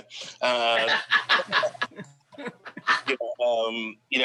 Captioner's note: laughs